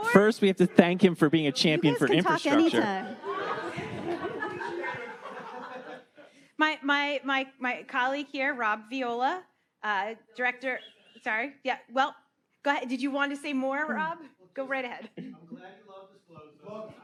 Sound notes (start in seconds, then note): 3.5 audience laughing